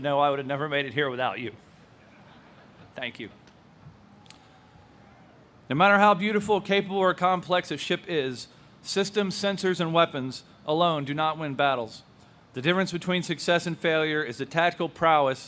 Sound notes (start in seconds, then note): 2.1 audience laughs